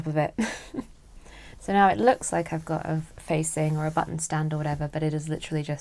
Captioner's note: chuckles